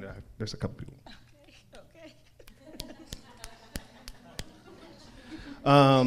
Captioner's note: crowd laughs; fingers snap